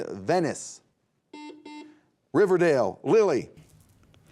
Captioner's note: buzzer beeping